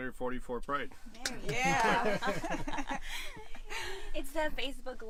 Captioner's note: laughter